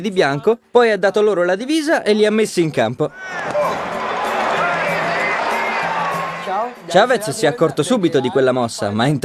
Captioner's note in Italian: Applauso